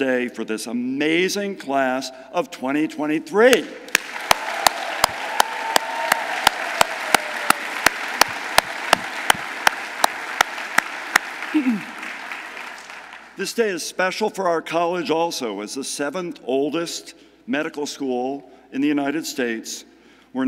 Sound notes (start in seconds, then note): 3.9 audience applauding; 3.9 audience cheering